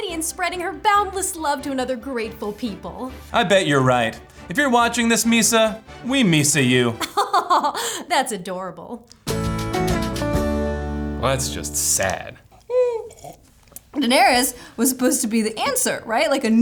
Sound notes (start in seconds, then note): 7.0 laughs; 9.3 guitar chord plays; 12.5 high-pitched sigh, slurping of drink